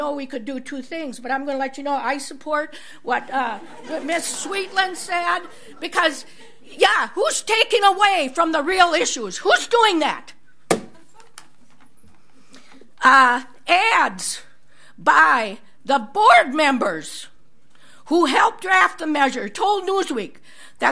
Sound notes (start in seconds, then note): 4.6 audience laughs